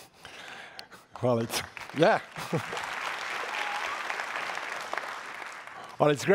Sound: audience applauding

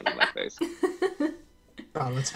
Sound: laughs

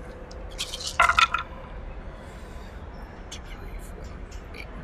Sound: dice clattering

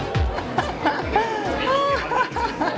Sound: laughs

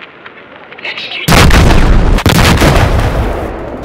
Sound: explosions

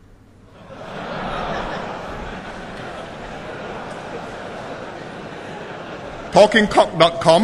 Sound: laughter

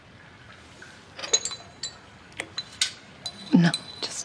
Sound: tea cups clang

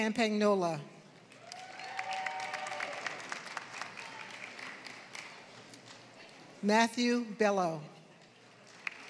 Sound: applause; applause

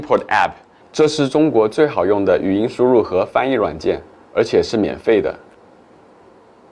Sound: speaking Chinese

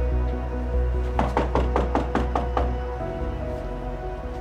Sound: knocking

